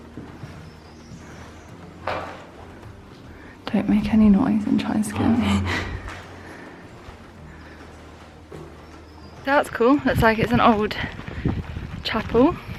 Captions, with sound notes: [whispering] Don't make any noise and try and scare me So that was cool, it's like an old chapel